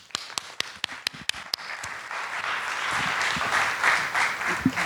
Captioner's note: audience applauding